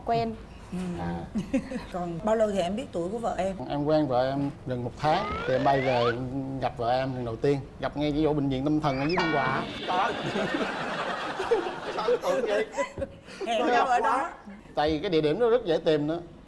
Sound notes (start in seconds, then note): 0.3 MCs giggles; 9.5 laughing